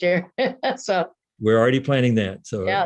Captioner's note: laughs